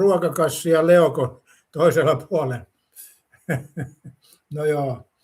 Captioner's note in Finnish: naurua